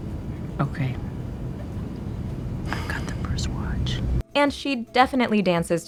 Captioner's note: whispers